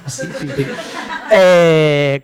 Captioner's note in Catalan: rialles